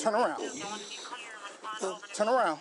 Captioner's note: radio chatter